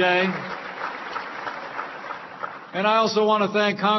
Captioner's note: applause